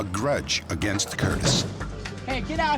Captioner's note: knocking